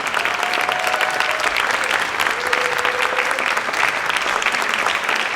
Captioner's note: audience applauding and cheering